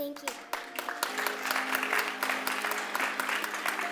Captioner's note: clapping